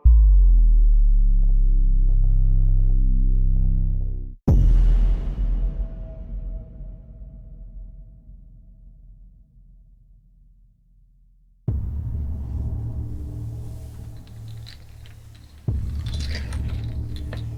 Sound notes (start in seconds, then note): 11.8 solemn music; 12.2 wind whistling